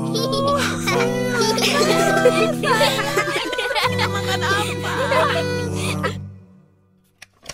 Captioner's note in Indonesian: Semua tertawa